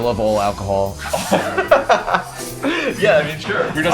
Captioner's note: laughing